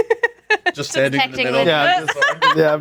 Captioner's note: laughing